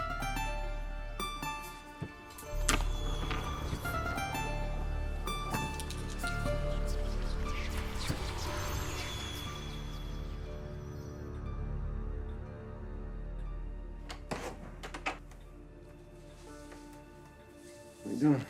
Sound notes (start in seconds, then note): 2.6 marble rattling; 2.6 ominous whispers; 16.8 somber orchestral music